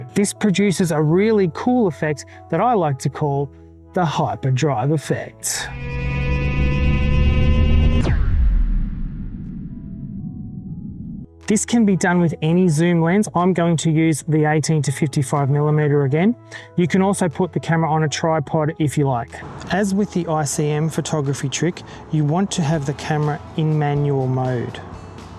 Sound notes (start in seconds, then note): 5.6 spaceship engine sound